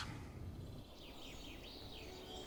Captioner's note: birds chirping; gentle music